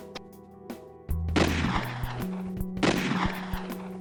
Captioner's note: gun firing